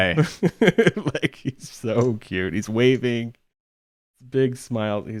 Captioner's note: laughs